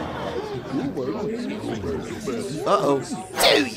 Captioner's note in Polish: tłum